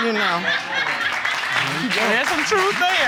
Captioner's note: audience cheering